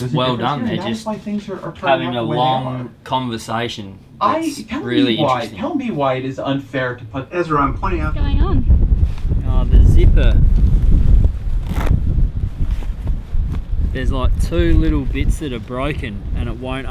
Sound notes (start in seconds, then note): 4.2 man talking loudly in background